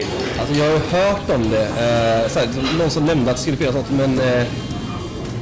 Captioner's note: Swedish